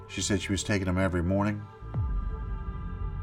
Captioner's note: impact boom